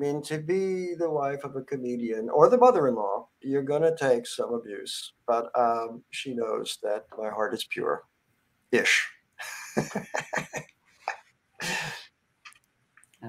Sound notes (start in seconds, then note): 9.4 laughs